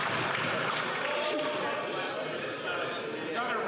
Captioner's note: some Applause